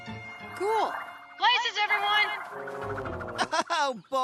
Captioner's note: thru bullhorn